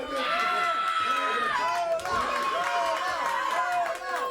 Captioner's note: crowd cheering